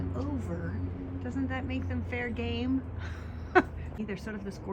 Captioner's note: giggles